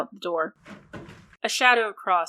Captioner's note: creaking wood and footsteps